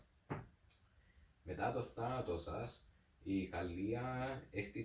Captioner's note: tsk